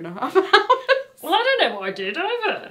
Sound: laughs

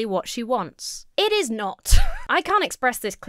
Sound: wheezes

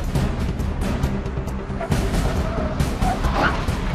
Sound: squealing of tires

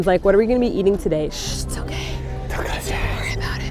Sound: whispers

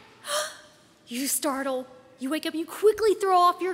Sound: gasps

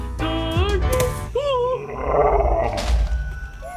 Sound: thud; creature growling

